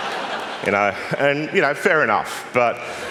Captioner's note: laughter